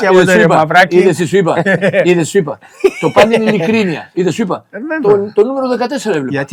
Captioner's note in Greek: γέλια